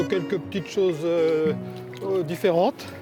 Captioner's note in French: none